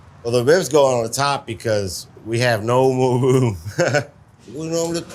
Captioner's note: chuckles